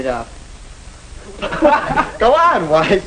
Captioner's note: laughing